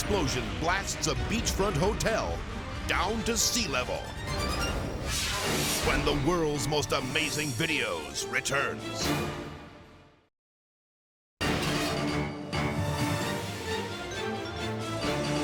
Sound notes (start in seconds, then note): 4.1 graphics whoosh; 11.5 upbeat music